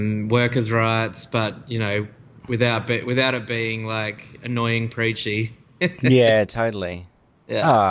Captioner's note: laughs